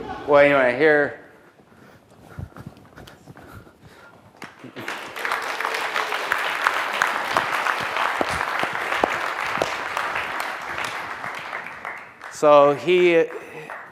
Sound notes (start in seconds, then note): 4.4 applause